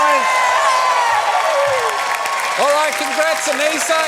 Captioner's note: cheering, applause